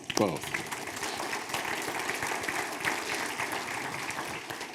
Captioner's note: audience applauding